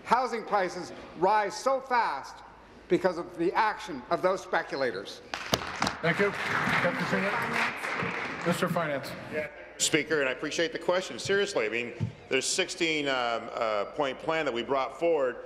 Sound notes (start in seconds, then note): 8.6 applause